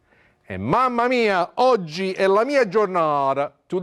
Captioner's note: speaking Italian